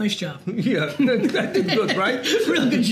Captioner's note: laugh